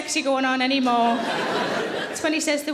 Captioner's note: audience laughing